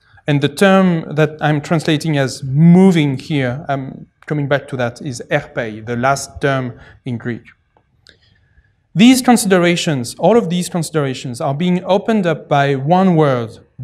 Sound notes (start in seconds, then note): 5.1 non-english